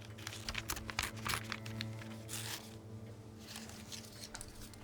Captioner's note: paper ripping